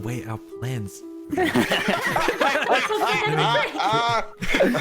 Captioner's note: all chaotic laughter